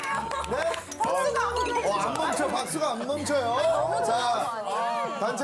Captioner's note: infinite applause